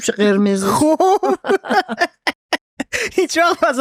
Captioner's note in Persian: خنده